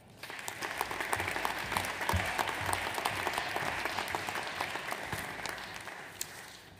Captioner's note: audience applauds